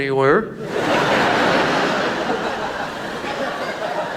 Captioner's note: audience laughs